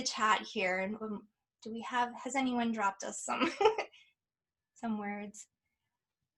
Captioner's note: chuckles